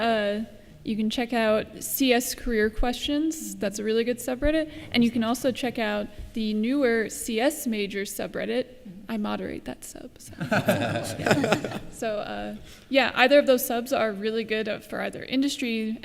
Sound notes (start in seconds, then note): 10.3 laughter